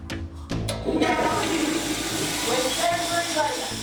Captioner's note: toilet flushes